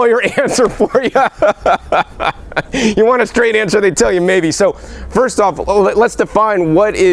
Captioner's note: laughing